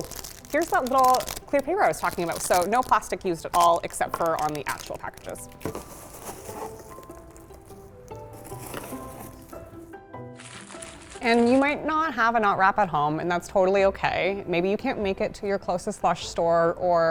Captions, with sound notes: Ooh, here's that little clear paper I was talking about, So no plastic used at all except for on the actual packages. (packing peanuts rustle) And you might not have a Knot Wrap at home, and that's totally okay. Maybe you can't make it to your closest Lush store